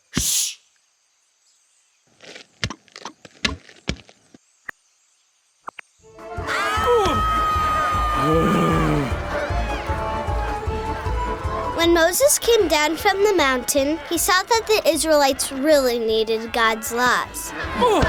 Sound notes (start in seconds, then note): 7.0 crowd making chaotic noises; 8.2 Moses sighing; 11.6 voiceover